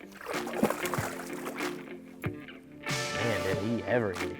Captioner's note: progressive music playing; fish splashes water